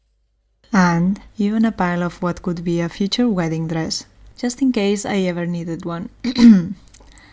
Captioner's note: ehem